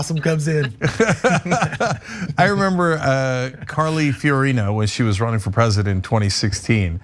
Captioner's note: laugh